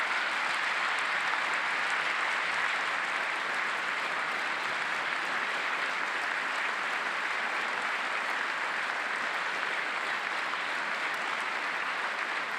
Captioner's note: applause